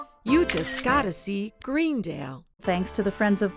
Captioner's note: camera clicks